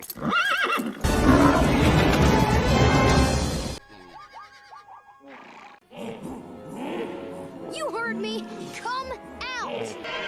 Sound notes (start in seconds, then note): 0.0 horse whinnies; 0.9 rhinos snorting; 3.9 zebras whooping; 5.9 hippo bellows; 9.9 llama bleats